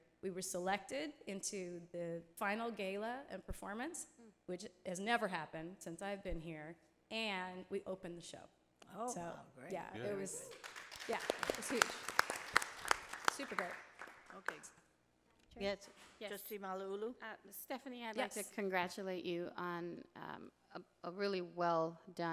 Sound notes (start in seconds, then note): 10.3 audience applauding